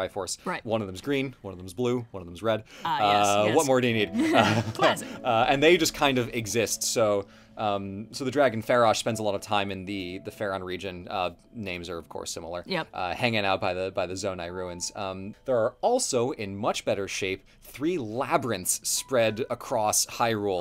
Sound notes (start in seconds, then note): 4.2 laughs